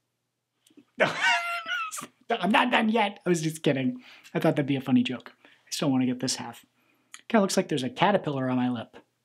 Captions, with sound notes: No. (laughs) I'm not done yet. I was just kidding. I thought that'd be a funny joke. I still want to get this half. It looks like there's a caterpillar on my lip.